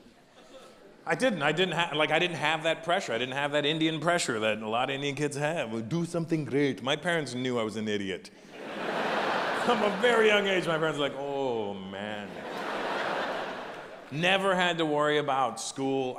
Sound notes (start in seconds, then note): 8.4 audience laughs